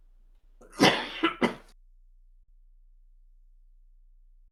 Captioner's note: coughing